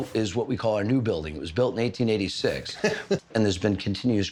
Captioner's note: laughs